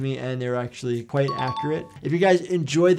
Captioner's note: bell dings